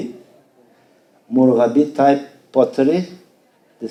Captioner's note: speaking foreign language